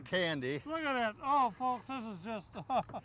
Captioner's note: chuckles